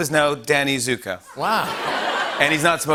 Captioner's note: laughter